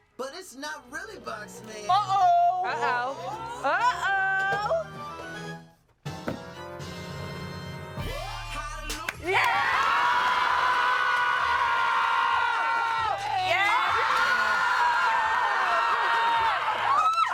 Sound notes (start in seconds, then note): 8.2 upbeat music; 9.2 everyone cheers and screams